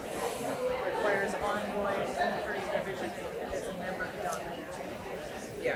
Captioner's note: audience chatter continues